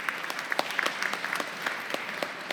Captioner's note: applause